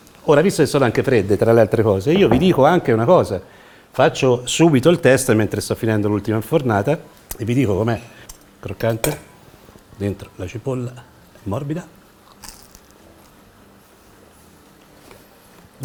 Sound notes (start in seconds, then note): 12.2 crunch!